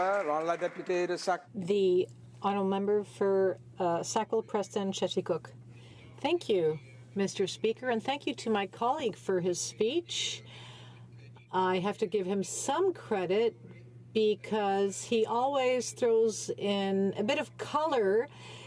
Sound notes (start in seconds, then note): 3.3 speaking French